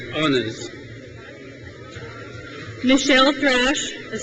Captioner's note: crowd cheers